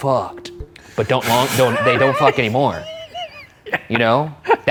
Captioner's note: laughs